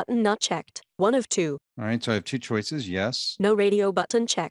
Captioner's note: computer Voice